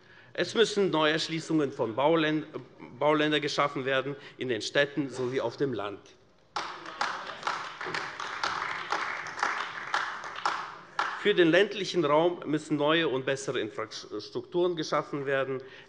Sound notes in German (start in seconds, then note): 6.5 Beifall : Wie machen wir das?